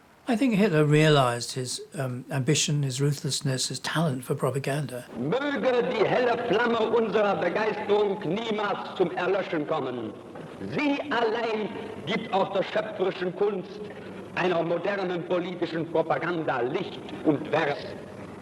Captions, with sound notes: I think Hitler realized his ambition, his ruthlessness, his talent for propaganda. [speaking German]